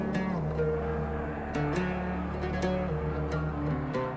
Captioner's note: shouting